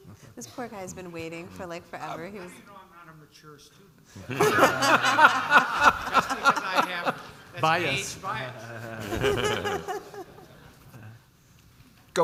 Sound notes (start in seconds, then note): 0.2 giggles; 4.2 all laughing; 9.1 panelists laughing